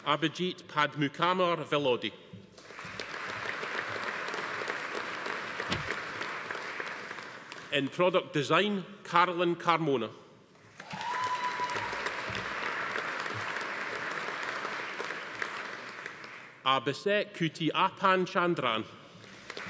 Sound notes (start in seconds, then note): 2.6 audience applauding; 10.6 audience applauding; 10.8 attendee cheering; 19.2 audience applauding